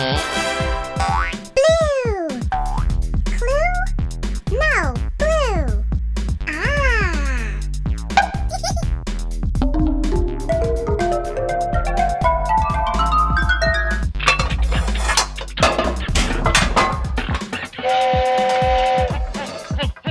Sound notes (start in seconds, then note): 0.0 tada fanfare; 8.2 Gigglebot laughs; 17.8 whistle